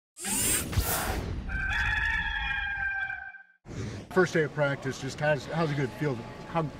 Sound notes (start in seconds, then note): 0.2 electronic whoosh; 1.4 rooster crowing